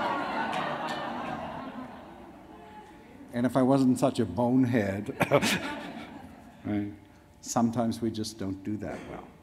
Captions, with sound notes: [audience laughs] And if I wasn't such a bonehead. [laughs] Sometimes we just don't do that well.